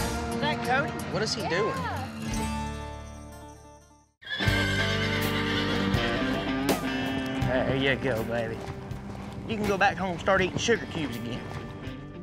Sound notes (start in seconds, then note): 4.2 horse neighs